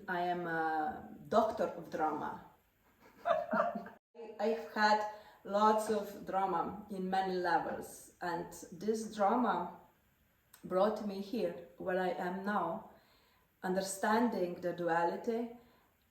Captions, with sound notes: I am a doctor of drama! [laughter] I've had lots of drama in many levels, and this drama brought me here where I am now, understanding the duality